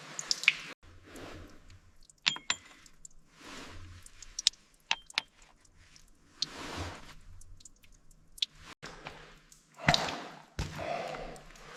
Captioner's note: water splashing